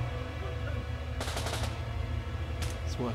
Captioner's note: guns firing